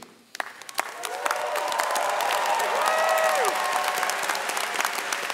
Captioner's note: audience cheering and clapping